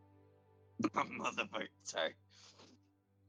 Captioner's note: laughs